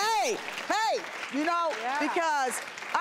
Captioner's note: applause